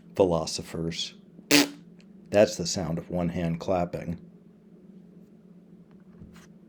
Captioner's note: blowing a raspberry